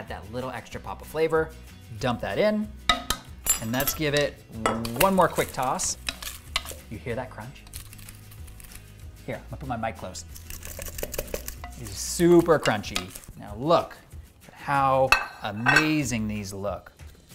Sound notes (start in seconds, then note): 10.2 sprouts crunching